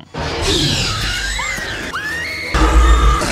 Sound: dinosaur roars; Lex screams; Sattler screams; dinosaur roars

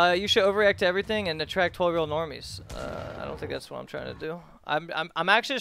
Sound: puke

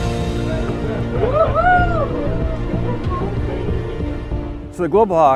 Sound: people cheering

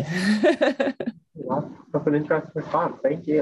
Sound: laughs

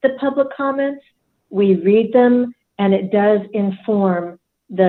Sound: none

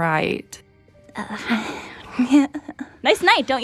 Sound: Ruby giggles nervously

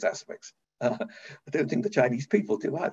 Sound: chuckles

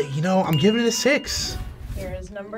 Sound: bell dinging

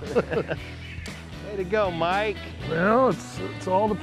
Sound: laughter

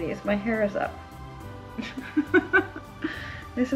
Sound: laughs

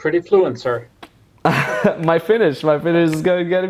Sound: laughs

